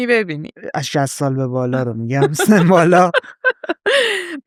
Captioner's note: laughs